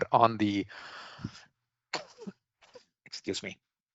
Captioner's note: coughs